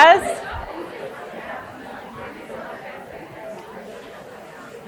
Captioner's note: people chattering continues